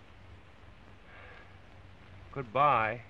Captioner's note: sighs